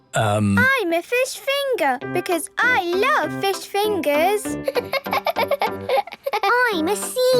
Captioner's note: laughing